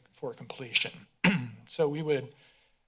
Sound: clears throat

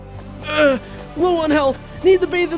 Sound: body thuds; groans

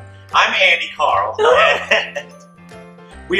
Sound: gasps

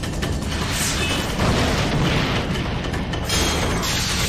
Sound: explosion

